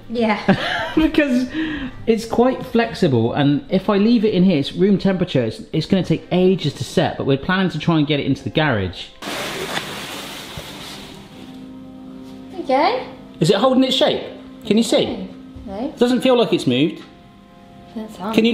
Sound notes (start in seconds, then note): 9.3 cone sliding